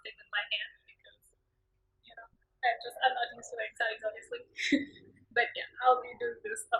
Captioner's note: laughs